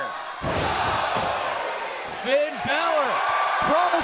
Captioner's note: crowd cheering